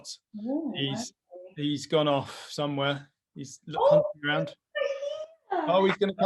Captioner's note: exclaims